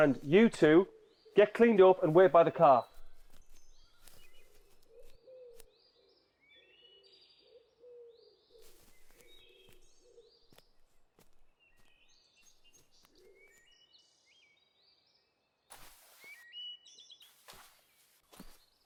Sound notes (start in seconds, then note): 8.1 birds chirping; 15.7 tent rustling